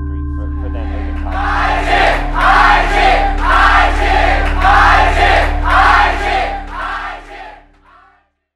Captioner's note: crowd chants